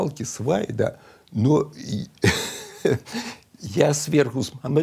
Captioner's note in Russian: усмехается